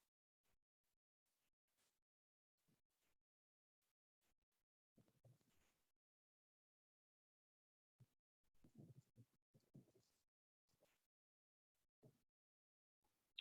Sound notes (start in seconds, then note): none